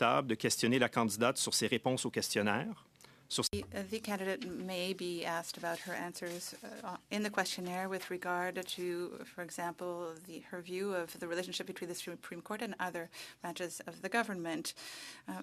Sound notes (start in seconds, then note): 2.6 speaking French